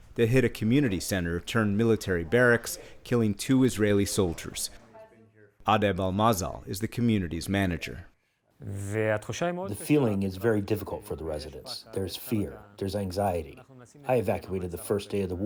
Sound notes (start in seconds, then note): 10.4 through translator